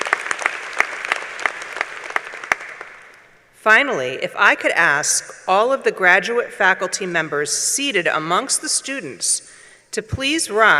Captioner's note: applause